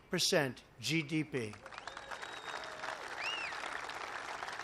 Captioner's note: applause